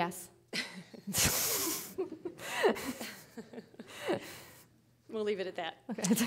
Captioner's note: laughing